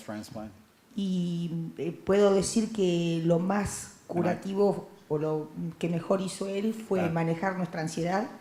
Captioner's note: Spanish language